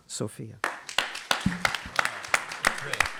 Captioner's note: applause